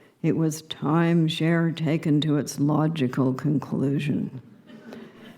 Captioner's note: subdued laughter